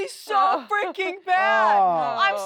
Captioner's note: laughter